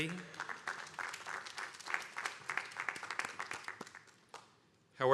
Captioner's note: attendees applauding